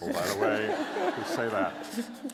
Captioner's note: laughter